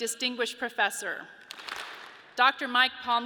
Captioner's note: audience claps